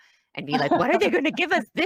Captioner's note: laughs